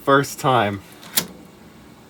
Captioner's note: click from floppy disk being inserted